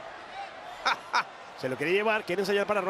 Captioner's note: laugh